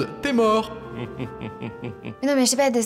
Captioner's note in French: rire presque pervers